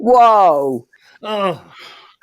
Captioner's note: sigh